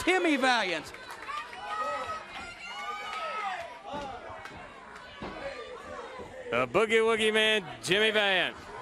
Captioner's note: crowd chatter